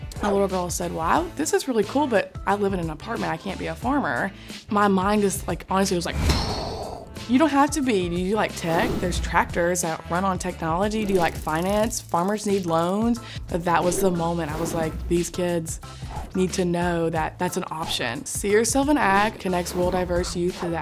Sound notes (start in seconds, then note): 6.2 exhaling heavily